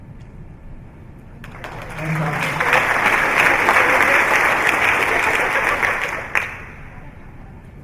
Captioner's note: applause